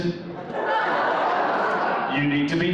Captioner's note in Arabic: الحشد يضحك